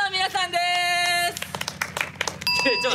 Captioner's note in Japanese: まばらな拍手